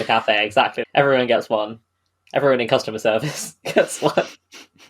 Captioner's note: laughing